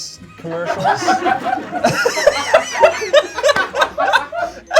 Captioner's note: everyone laughs